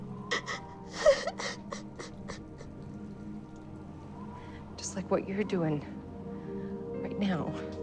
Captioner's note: sobbing